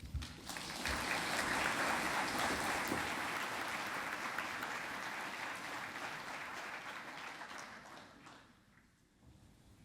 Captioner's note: applause